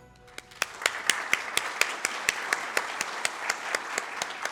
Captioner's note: audience claps